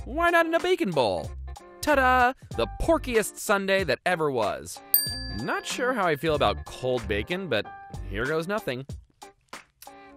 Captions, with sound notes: why not in a bacon bowl? Tada, the porkiest sundae that ever was. [dings] Not sure how I feel about cold bacon, but here goes nothing.